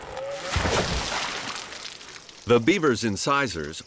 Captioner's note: wood creaking; water splashes